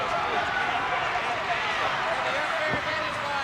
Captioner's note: crowd cheering